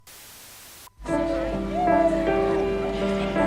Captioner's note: tv static